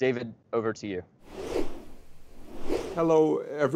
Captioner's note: whoosh transition sound effect